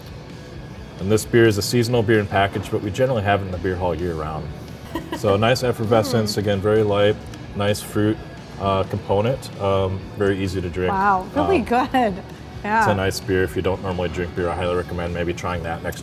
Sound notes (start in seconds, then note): 4.8 laughs